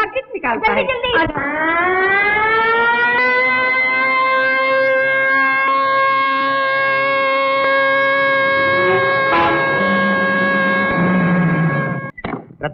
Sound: mill siren blares

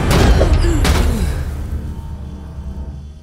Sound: loud thud

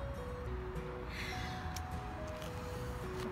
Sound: sighs

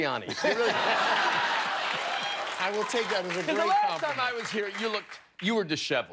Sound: laughter

